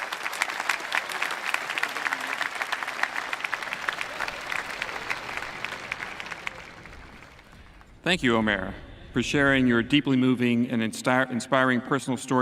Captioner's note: applause